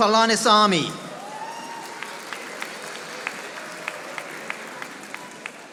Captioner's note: audience applauding